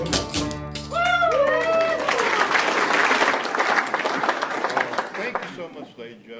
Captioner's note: audience applauding